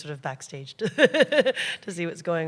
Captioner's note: laughter